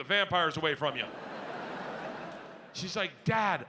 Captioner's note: audience laughs